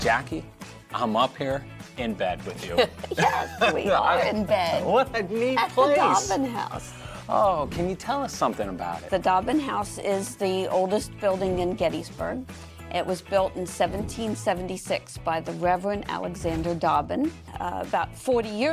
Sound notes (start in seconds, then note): 2.7 laughs